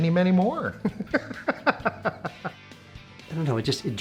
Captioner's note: laughs